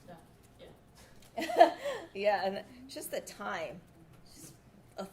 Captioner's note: laughs